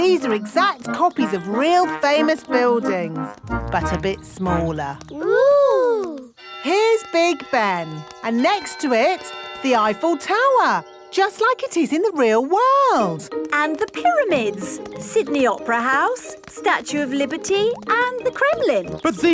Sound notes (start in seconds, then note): 6.4 clock chimes